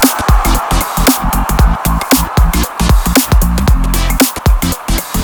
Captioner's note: crowd cheering